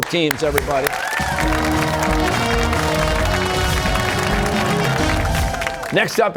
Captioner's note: cheers and applause